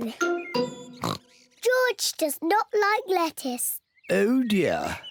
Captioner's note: oinks